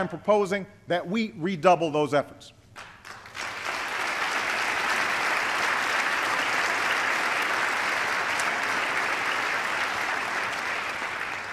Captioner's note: applause